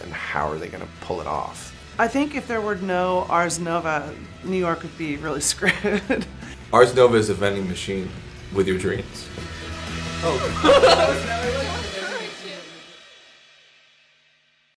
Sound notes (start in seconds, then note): 10.2 laughing and unintelligible speaking